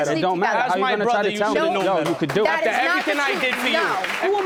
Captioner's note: audience applauds